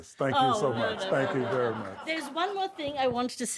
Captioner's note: audience laughs